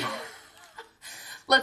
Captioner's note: laughing